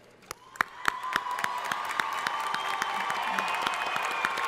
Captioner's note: crowd applauding